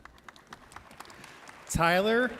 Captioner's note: audience applauds